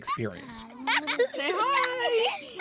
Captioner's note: children laughing